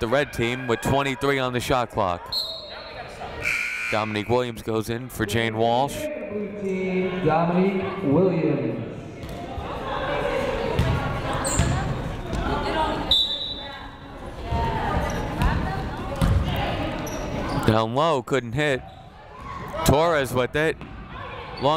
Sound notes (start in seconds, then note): 3.4 whistle blowing; 3.4 buzzer sounding; 13.0 whistle blowing